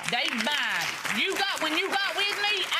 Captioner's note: clapping